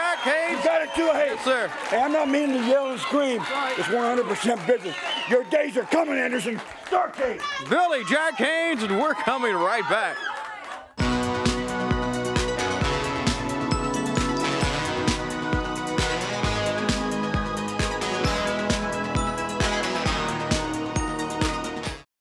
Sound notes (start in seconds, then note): 10.9 crowd cheering